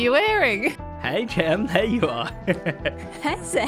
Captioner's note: chuckles